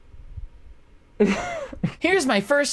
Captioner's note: gay giggle